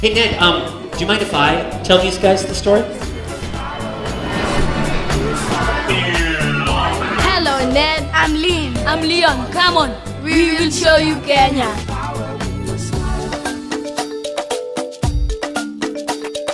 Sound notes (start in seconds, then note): 2.8 airplane sound